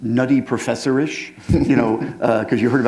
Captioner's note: chuckle